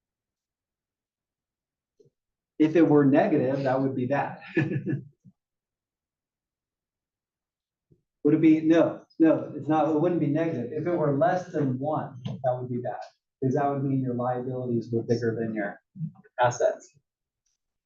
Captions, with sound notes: If it were negative, that would be bad [LAUGH]. No, it wouldn't be negative. If it were less than one, that would be bad, cuz that would mean your liabilities were bigger than your assets.